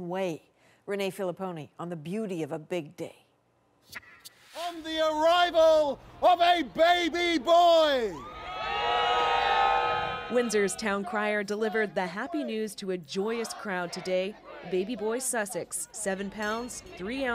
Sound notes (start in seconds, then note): 9.8 cheers and Applause